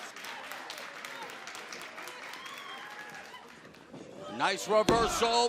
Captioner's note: crowd cheering